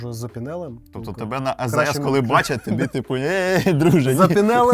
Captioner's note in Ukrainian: сміх